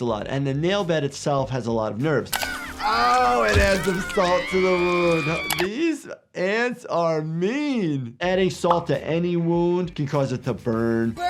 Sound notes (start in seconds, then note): 4.8 Sniffles screaming